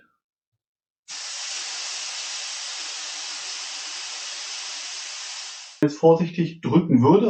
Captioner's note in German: Zischen